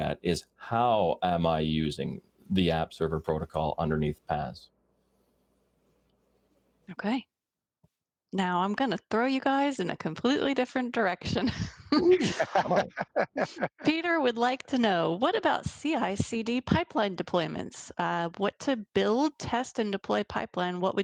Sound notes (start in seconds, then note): 11.9 all laughing